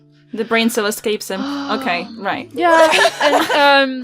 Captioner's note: sighs; laughter